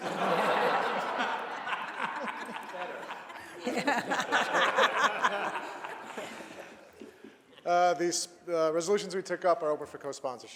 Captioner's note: laughter